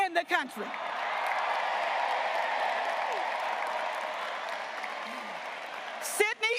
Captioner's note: graduates cheering and applauding